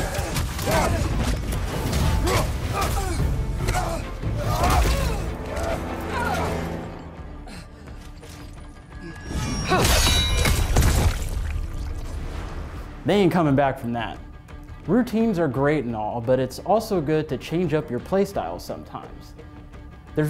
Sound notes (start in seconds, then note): 3.9 body thudding; 3.9 character grunting; 9.3 metal clanging; 10.4 body thudding